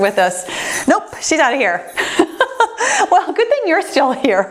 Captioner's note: laughs